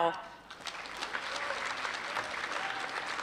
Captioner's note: applause